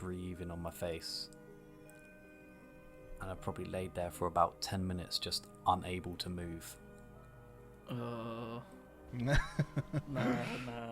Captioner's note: laughs